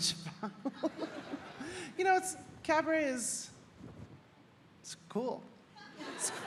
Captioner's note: audience laughing